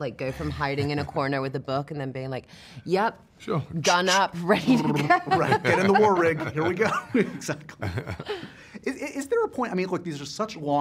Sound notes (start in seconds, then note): 4.9 laughter